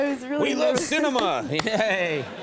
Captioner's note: Conan clapping; Scarlett laughing